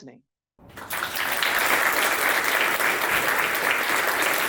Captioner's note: audience applauds